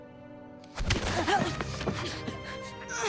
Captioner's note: groaning